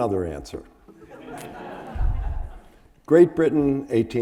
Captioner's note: audience laughing